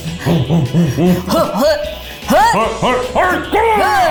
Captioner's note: both grunt